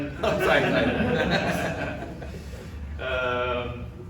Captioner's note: laughs